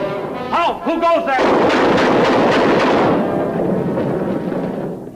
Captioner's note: guns firing